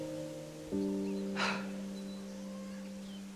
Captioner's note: Helen exhaling sharply